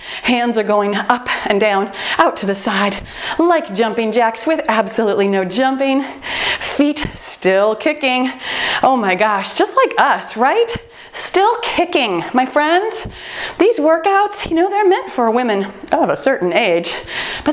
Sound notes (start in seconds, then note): 3.8 timer beeping